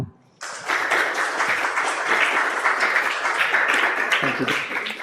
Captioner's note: clapping